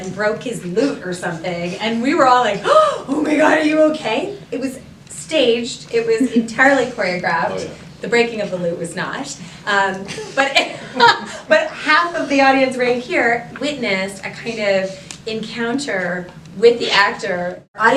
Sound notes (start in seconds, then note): 2.6 gasp